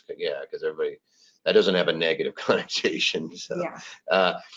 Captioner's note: laughs